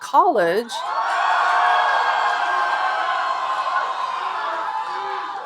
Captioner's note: audience cheering